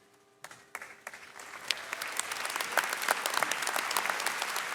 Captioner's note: audience clapping